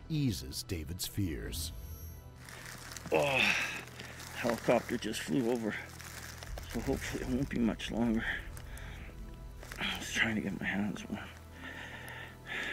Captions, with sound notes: And there was a few bystanders around who were with him, and we knew that's where the spot was. - [Voiceover] Down in the hole, the sound of the helicopter somewhat eases David's fears.